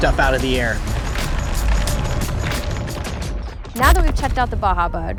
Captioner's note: gravel & dirt sputter